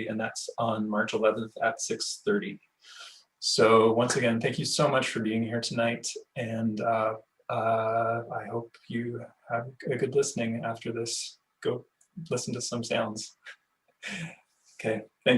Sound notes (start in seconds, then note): 14.0 laughing